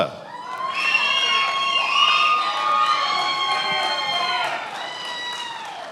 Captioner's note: attendees applauding and cheering